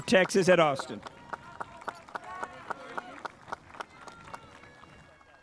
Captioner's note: spectators applauding